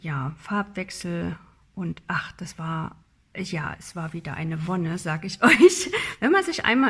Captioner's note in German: gelächter